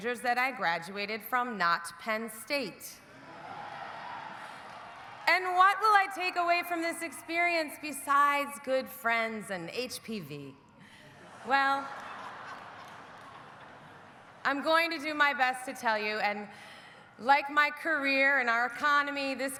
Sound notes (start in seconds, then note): 3.2 audience laughing; 3.2 audience cheering